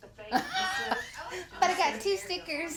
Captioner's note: laughs